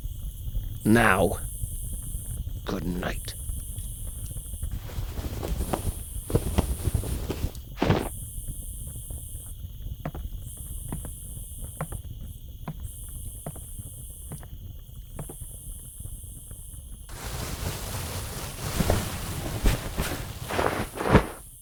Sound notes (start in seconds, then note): 4.6 blankets moving; 9.9 footsteps; 17.1 blankets moving